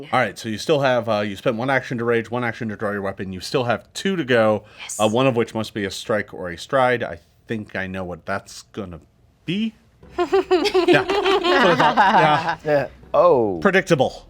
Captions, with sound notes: - All right, so you still have. You spent one action to rage, one action to draw your weapon. You still have two to go. - Yes. - One of which must be a strike or a stride. I think I know what that's gonna be. (group laughing) - Yeah, yeah, oh. - Predictable.